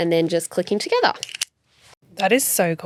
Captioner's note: magnets click